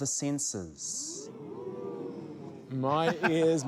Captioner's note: all exclaim